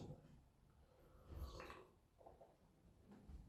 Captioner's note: slurp